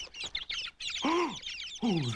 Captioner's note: chirping; gasping